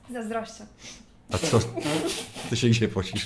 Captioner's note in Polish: śmiech